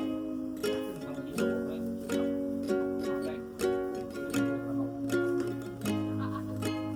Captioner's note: laughs